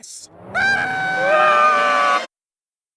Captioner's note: goo screams; balloon screams